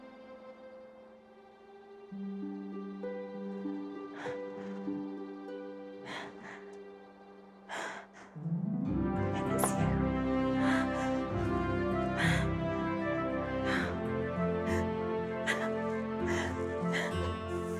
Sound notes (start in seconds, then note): 10.7 crying